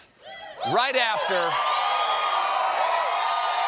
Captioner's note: cheers and applause